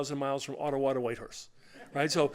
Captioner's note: laughter